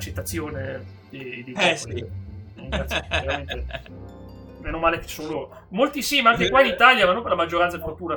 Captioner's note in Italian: risate